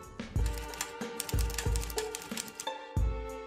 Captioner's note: tapping